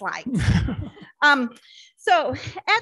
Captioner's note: board laughs